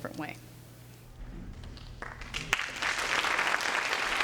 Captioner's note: applause